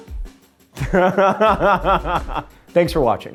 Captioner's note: laughing